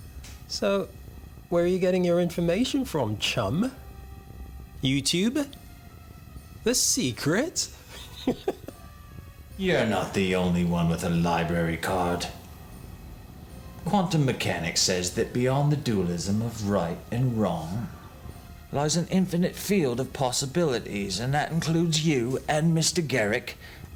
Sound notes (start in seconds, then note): 7.8 laughs